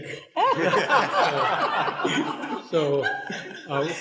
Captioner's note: people laughing